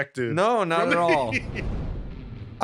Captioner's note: laughter